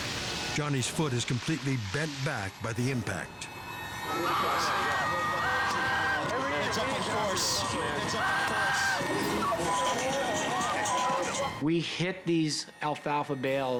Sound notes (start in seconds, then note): 9.5 crowd chatters